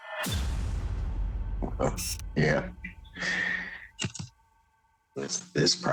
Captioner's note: chuckling